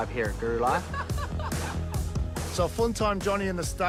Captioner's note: laughs